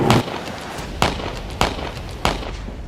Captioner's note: gunshots